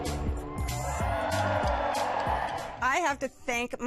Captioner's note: cheers and applause